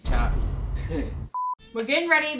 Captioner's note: laughs